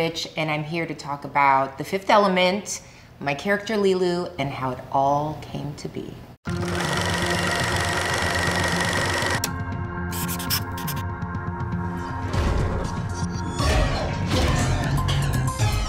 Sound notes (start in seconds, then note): 6.4 film reeling loudly; 7.6 tense rhythmic music; 10.1 marker scribbling expressly; 12.5 upbeat exciting music